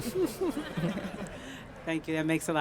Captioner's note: laughing